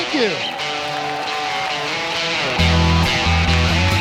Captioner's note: cheering and applause